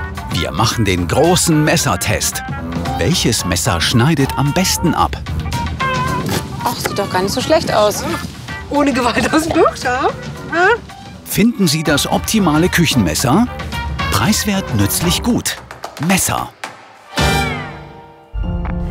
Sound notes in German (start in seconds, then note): 9.3 Lachen